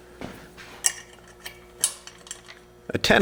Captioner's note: clanking